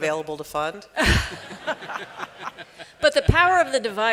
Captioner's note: chuckles